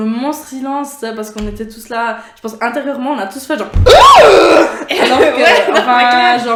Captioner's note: shocked noise